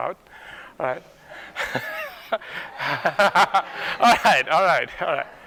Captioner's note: laughter